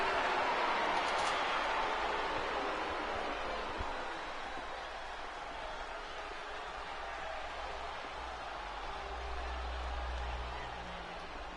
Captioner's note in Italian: Applauso